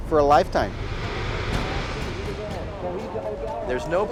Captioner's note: speaking indistinctly, hooting, cheering